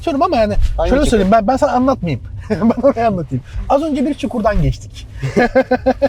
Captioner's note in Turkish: kahkaha